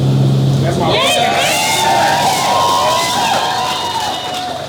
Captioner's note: audience cheers and applauds